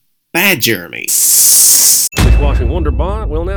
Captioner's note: spray bottle sounds